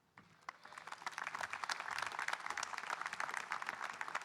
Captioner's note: audience applauding